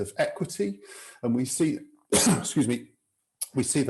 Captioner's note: coughs